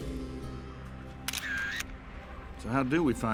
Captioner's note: upbeat country music playing; camera shutter